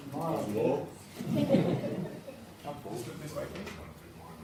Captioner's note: crowd mumbling; laughing